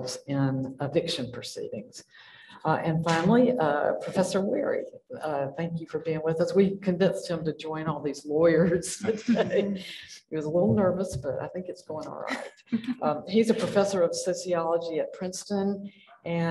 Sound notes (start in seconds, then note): 8.8 chuckles